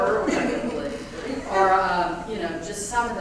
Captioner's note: laugh